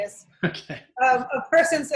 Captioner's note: laughing